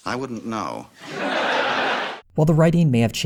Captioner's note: audience laughter